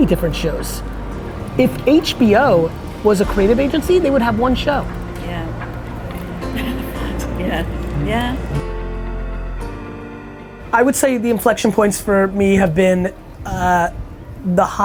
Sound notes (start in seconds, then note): 6.4 laughs